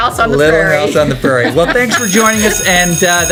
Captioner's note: school bell rings